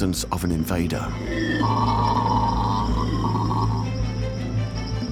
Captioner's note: screeches